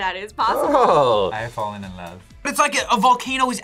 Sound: laughs

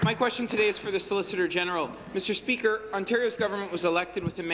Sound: applause

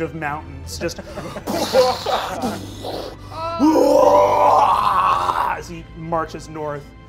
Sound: laughing; roars

